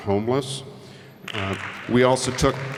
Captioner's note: applause